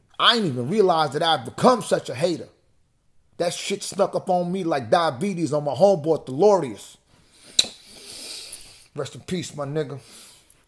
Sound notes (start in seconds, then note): 7.5 kisses